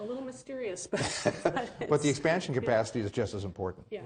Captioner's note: all laugh